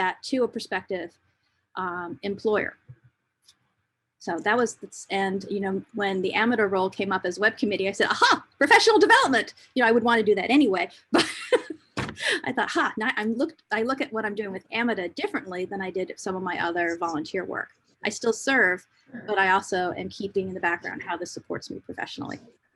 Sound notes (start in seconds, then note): 11.3 laughs